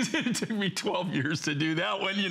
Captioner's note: laughter